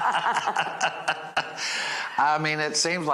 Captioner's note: laughing